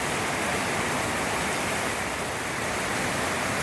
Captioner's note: heavy rain